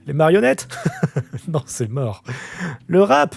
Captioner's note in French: rire